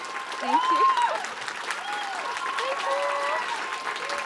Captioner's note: applause